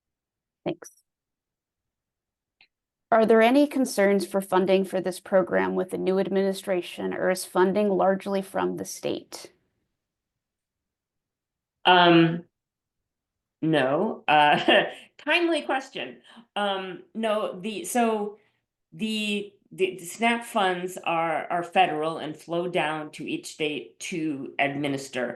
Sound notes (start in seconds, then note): 14.5 laughter